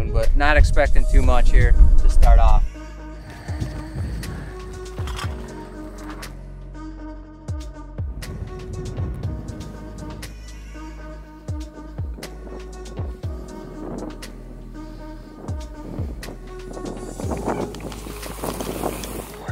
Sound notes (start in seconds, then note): 4.4 bike clinging; 9.9 wind blowing; 14.9 relaxing music continues